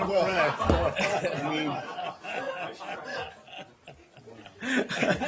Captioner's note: laughter